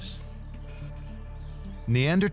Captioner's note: tense music; birds chirping